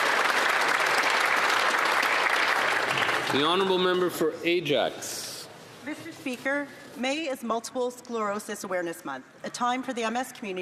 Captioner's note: applause